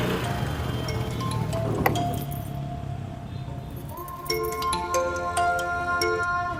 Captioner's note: phone ringing